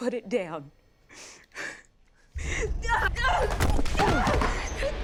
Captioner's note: panting; screaming; both grunting